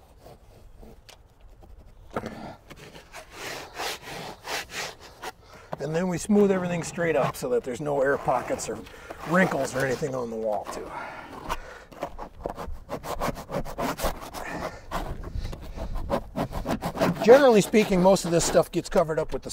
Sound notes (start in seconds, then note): 17.6 scraper scraping wall